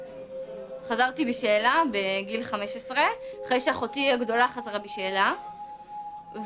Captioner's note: speaking in foreign language